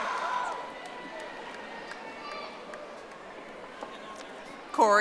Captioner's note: audience applauding